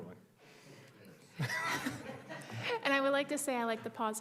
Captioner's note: group laughing